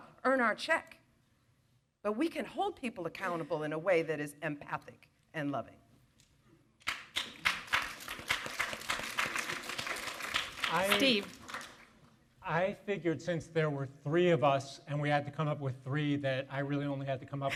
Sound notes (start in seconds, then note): 6.8 audience applaud